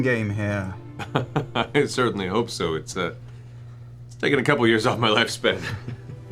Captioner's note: laughs